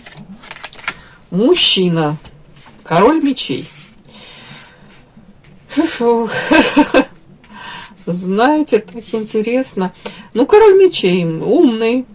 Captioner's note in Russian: смех